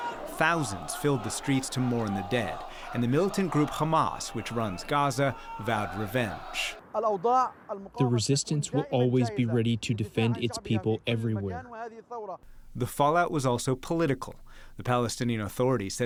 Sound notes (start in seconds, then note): 7.8 through translator